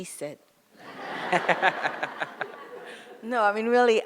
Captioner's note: audience laughs